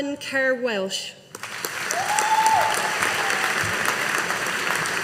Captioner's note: audience applauding